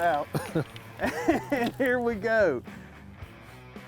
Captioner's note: both laughing